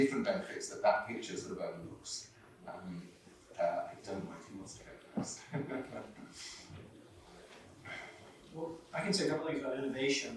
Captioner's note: chuckles